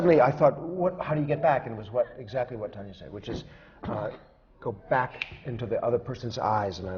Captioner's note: snaps his fingers